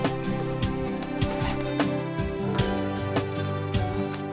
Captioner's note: zipper whizzing